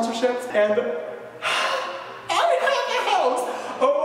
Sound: excited exhale

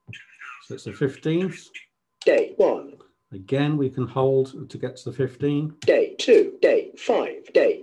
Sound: clock speaks: Day 1

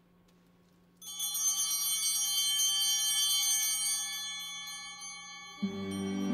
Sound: bell ringing

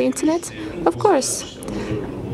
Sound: speaking foreign language

